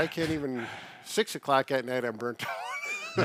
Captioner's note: laughs